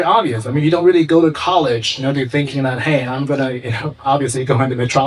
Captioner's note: chuckles